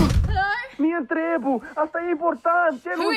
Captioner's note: speaking in foreign language